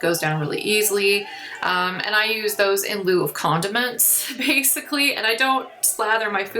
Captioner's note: laughs